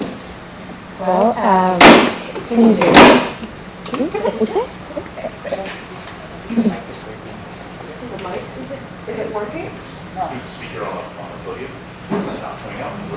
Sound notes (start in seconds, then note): 3.9 audience applause